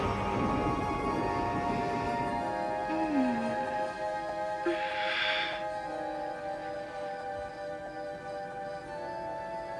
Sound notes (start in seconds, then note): 2.5 sighing